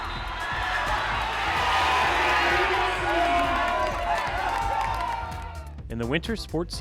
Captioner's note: cheering